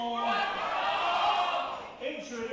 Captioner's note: crowd